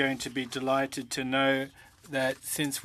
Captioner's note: speaking French